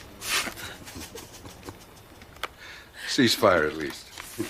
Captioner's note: both laughing